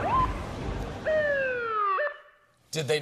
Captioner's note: siren